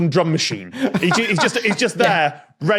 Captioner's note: laughs heartily